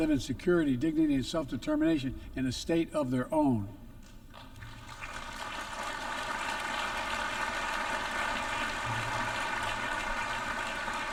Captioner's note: applause